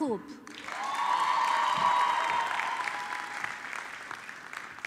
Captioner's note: audience clapping